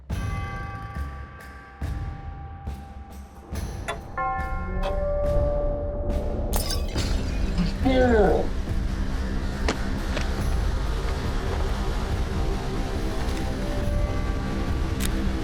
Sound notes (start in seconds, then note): 3.8 clock chimes; 4.1 intense music; 6.5 bottle drops and breaks